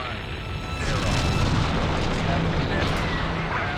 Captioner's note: rocket engines ignite